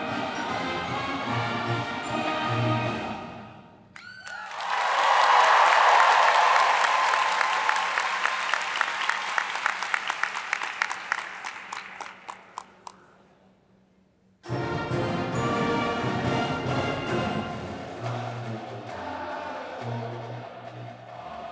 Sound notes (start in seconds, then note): 4.6 audience applauds; 14.4 marching band music